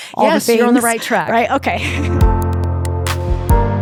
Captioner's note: laughs; gentle music